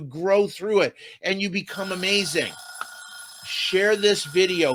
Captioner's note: bell shrilly ringing